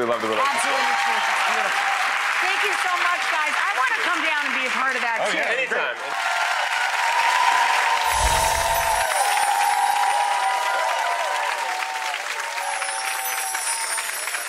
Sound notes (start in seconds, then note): 1.8 applauding; 6.2 applauding; 8.0 chimming